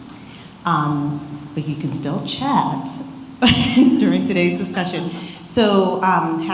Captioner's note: laughs